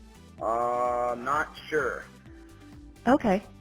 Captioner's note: male Voice